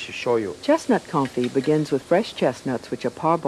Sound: voiceover

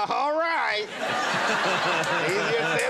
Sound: audience laughing

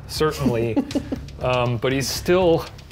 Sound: laughs

